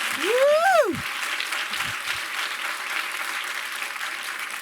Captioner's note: applause